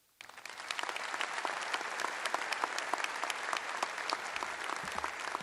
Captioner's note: applause